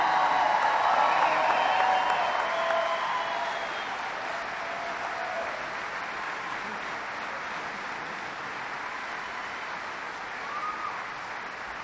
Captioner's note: applause